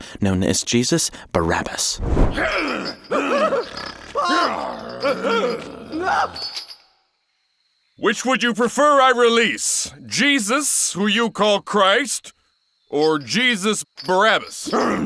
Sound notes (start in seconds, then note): 2.3 Jesus Barabbas grunting; 2.3 guard crying; 14.6 Jesus Barabbas grunting